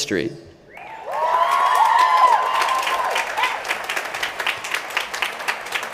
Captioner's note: applause